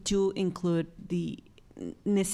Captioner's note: none